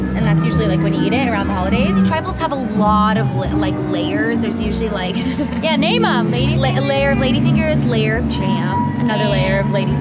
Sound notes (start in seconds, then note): 5.2 laughing